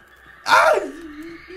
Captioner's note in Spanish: Grita